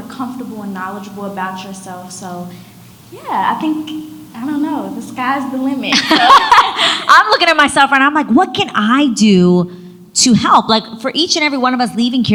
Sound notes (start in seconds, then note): 6.0 laughs